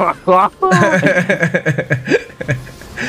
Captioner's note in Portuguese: risos